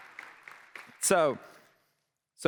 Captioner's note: applause